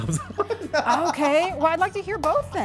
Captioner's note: laughing